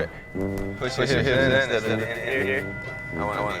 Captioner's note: high pitched feedback sounds; voice echoing